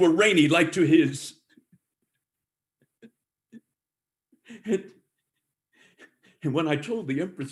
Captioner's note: laughter